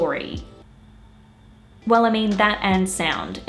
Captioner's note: silence